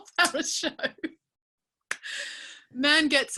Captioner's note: laughing